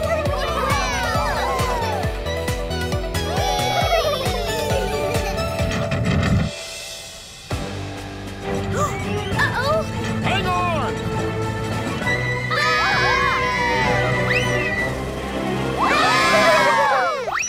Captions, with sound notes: [laughing] Whee! [gasping] Uh-oh. Hang on! - Whaa! - Whoo-hoo! Whoa!